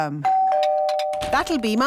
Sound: doorbell rings

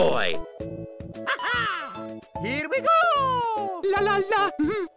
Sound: laughs

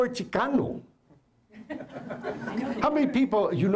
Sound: laughter

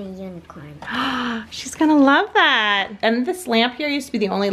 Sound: gasps

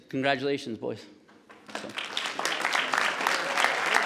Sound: audience clapping

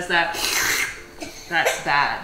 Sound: slurps

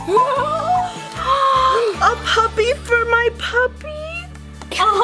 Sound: gasps

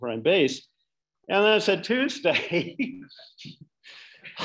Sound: laughing

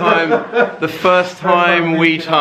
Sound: laughing together

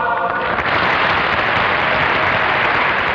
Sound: audience applauds

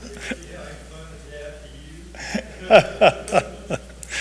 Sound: people laugh; speaking distantly

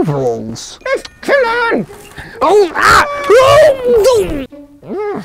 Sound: yelps; grumbling

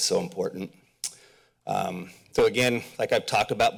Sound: smacks lips

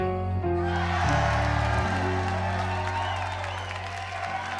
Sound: crowd cheers

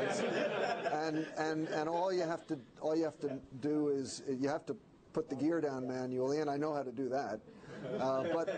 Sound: laughter

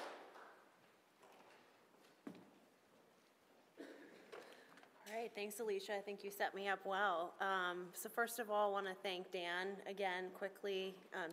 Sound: applause

